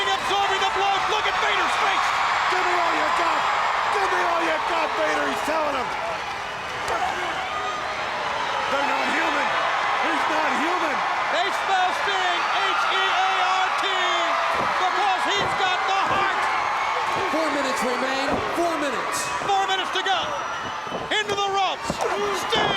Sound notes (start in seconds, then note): 7.4 crowd chattering